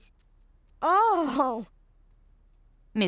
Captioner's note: sighing